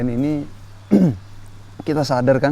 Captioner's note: coughs